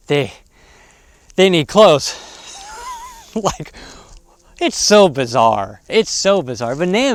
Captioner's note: laughs